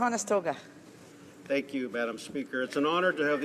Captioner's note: speaking French